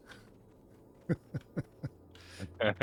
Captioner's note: laughing